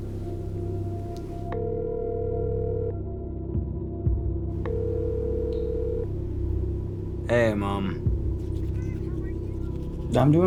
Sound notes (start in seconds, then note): 1.7 phone ringing